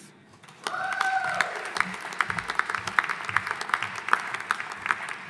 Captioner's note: audience applauding